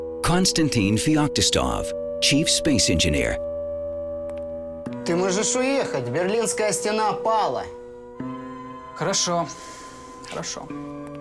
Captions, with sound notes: Konstantin Feoktistov, chief space engineer. (both speaking foreign language)